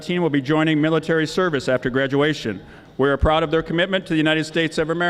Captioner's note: none